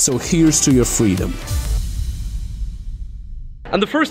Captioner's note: thundering